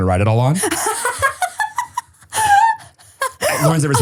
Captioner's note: person laughing